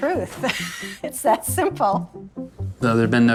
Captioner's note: laughing